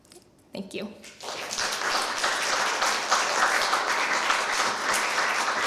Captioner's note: applause